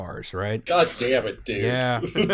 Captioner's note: laughter